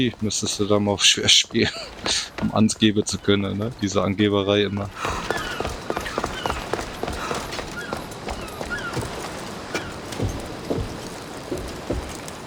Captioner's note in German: schnauben